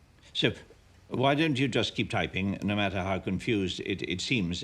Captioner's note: none